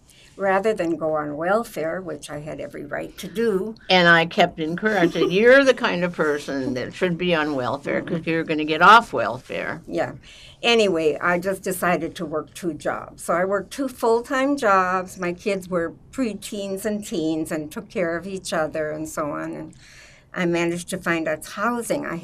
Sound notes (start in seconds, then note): 4.8 laughing